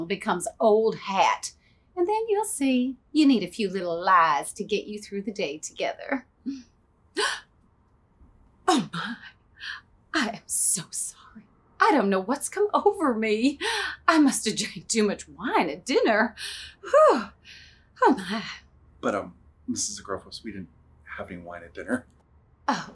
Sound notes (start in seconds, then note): 7.2 gasps; 17.0 sighs